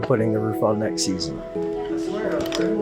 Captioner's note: muffled chatter